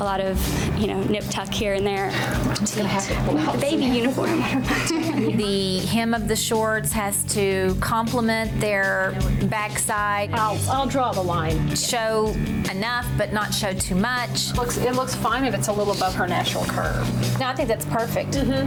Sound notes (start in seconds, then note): 4.8 laughs